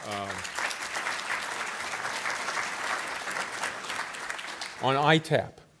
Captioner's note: applause